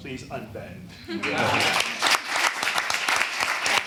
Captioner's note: applause